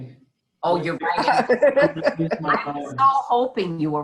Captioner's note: group laughing